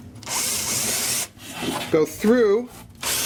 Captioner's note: drilling